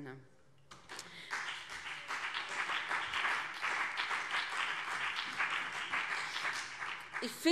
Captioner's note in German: Beifall BÜNDNIS 90/DIE GRÜNE